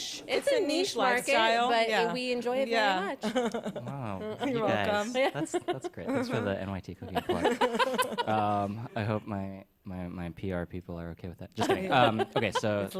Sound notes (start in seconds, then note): 3.2 laughs; 7.0 laughter; 7.2 laughs; 11.6 laughter